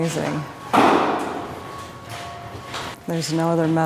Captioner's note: bumping